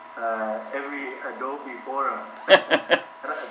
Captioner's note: laughter